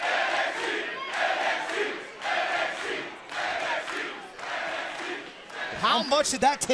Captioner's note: crowd cheering